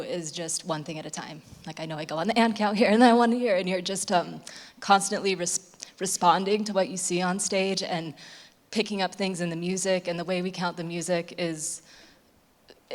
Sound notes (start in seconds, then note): none